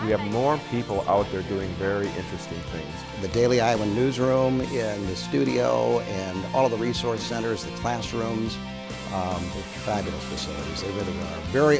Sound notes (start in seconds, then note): 3.3 voiceover